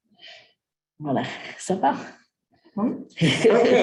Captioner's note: non-english speech